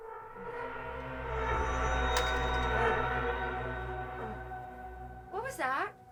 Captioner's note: intense music; pot shattering